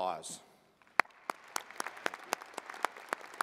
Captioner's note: applause